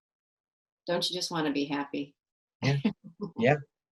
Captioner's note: laughs